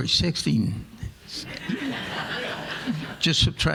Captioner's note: audience laughing